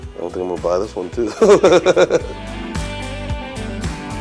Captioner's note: laughs